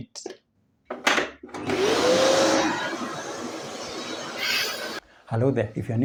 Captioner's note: vacuum cleaner noise